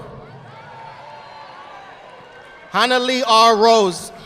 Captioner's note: audience applauding